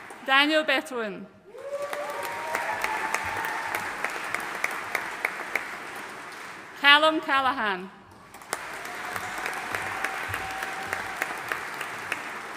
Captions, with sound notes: Daniel Betoin. (AUDIENCE CHEERING AND APPLAUDING) Callum Callahan. (AUDIENCE APPLAUDING)